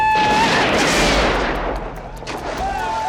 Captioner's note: crying; gunfire; cheering